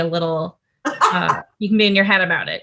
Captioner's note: Rosé laughs